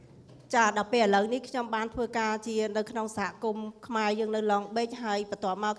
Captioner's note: speaking foreign language